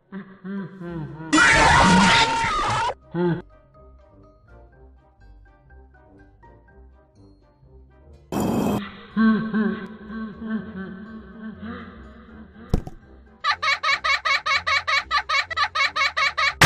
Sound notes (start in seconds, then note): 1.2 Freddy laugh, Bonnie Scream, Freddy laugh; 8.1 clunk, Freddy Laugh; 12.7 thud; 13.4 BB laughing